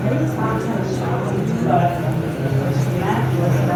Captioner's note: people chattering